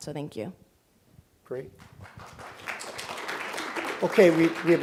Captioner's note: applause